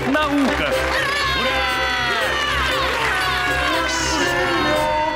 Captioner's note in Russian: Все кричат "Ура"